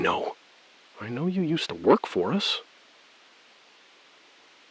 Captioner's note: SILENCE — 4 sec